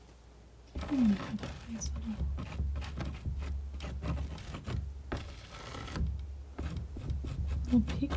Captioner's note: scratching